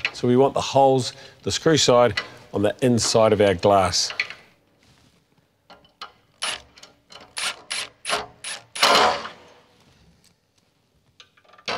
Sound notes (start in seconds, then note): 4.6 screwing